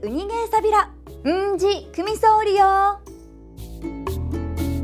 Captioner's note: in Okinawan